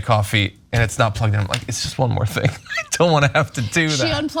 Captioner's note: laugh